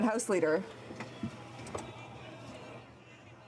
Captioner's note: some Applause